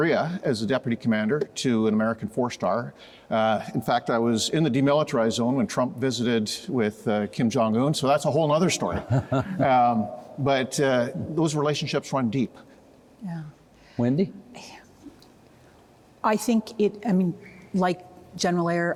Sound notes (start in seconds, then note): 8.8 chuckling